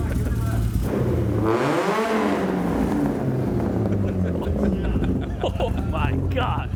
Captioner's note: car revving; amused chuckling